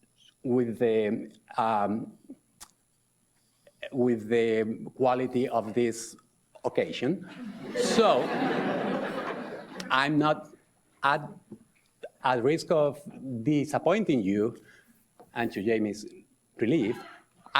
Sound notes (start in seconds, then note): 7.2 audience laughs